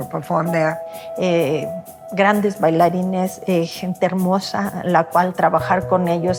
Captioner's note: speaking Spanish